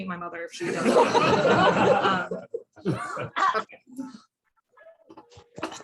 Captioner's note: laughter